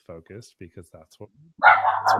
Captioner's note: dog barking